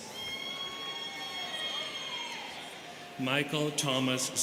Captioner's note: students cheering